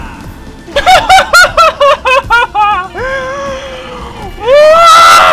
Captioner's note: laughter